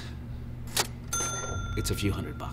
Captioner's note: cash register ding